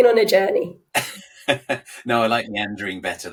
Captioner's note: laughing